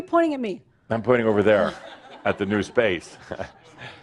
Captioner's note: some chuckles